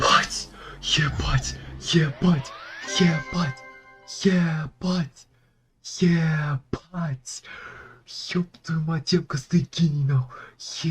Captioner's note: more happy noises